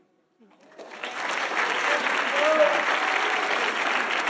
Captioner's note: audience applauding